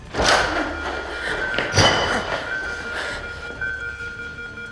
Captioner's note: monitor alarm sounding